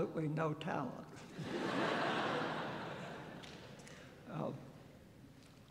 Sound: laughter

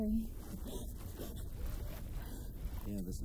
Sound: gasps

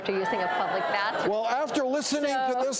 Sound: audience groaning

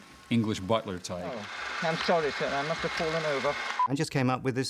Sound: british Accent, Muffled

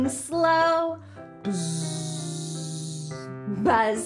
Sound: buzzing

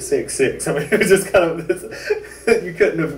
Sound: laughter

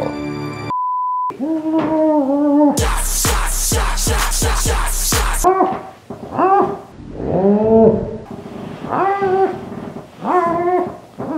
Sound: muffled whining

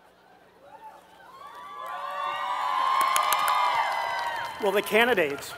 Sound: applause

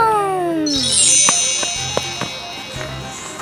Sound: twinkling

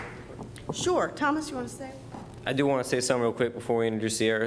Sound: applause

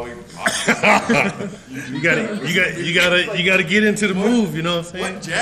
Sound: laugh

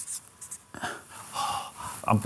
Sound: sighs

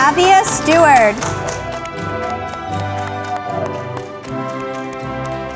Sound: audience applauding

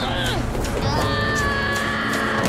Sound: screaming

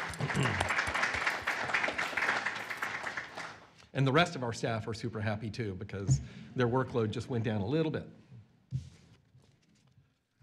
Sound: applause

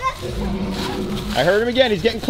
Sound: dinosaur roaring

